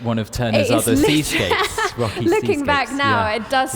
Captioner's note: laughs